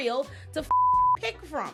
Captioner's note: beep